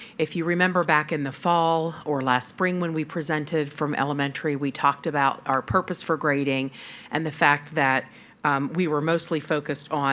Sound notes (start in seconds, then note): none